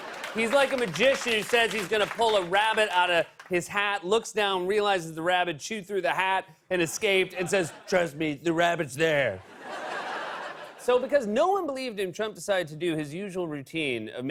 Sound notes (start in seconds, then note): 7.9 As Trump; 9.4 laughter; 10.8 normal voice